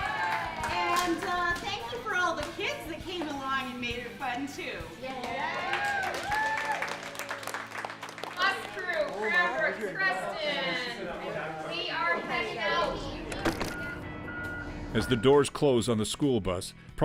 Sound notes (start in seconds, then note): 5.4 applause